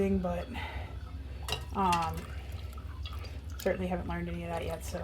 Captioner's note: milk dripping